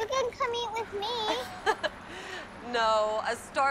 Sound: chuckling

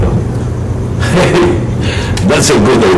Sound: chuckles

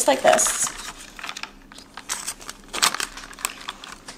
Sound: gelatin crunching

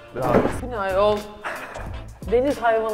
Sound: wheezing laugh

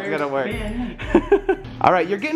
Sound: laughter

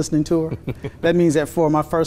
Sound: laughs

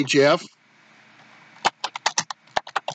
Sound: typing

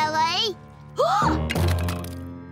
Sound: gasping

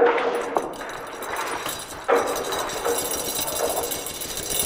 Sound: chain clinking

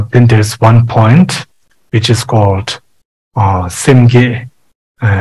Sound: tibetan language

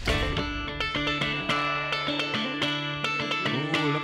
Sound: crowd cheers

